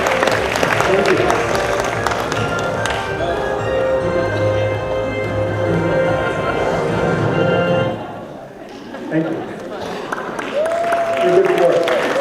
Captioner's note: applause and cheering